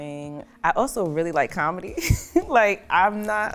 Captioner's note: chuckles